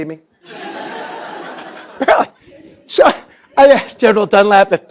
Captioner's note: laughter